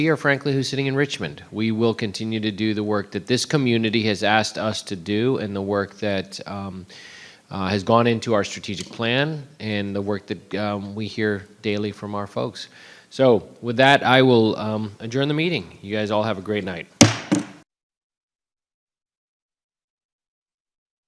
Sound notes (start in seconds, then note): 17.0 gavel banging